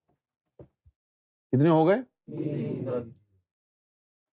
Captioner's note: audience replies